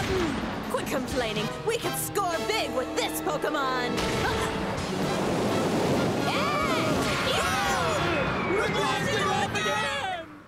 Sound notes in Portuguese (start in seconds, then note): 6.3 todos gritando; 7.0 berrando